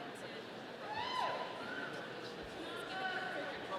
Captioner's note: none